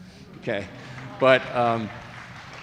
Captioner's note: audience applauding